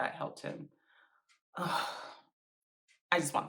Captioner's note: sigh